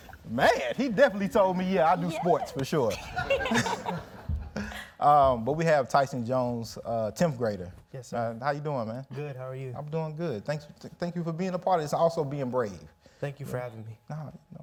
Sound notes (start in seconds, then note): 2.8 everyone laughs